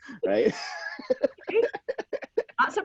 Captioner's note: laughing